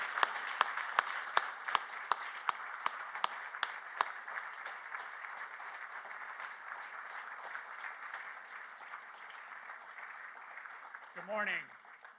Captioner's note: applause